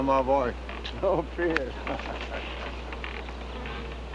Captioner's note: laughing